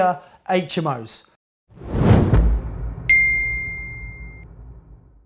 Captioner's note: logo whooshing